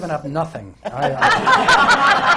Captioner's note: laughter